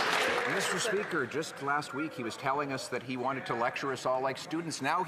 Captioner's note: some Applause